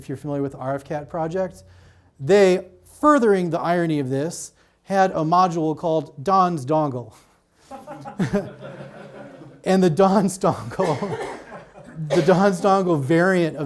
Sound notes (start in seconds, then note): 7.6 audience laughs